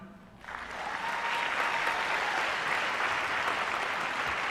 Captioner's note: applause